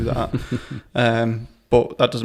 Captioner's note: laughter